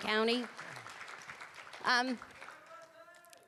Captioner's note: applause